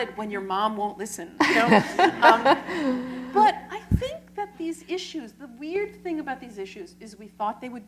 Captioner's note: laughter